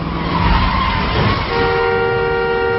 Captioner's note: tires screeching; honking